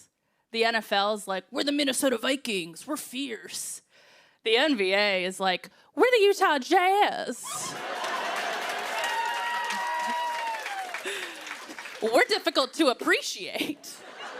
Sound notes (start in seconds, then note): 7.4 laughter and applause